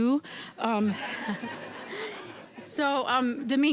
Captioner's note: audience laughing